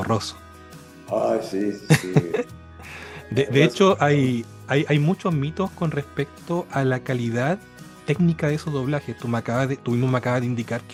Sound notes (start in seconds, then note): 1.9 laughs